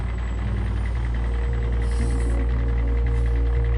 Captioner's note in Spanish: Sonido del camión